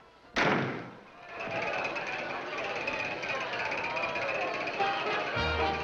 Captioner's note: door slams; wheel rattling